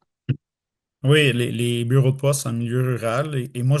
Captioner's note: French